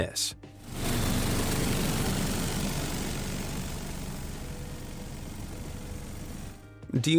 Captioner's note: plane engine revving; gentle music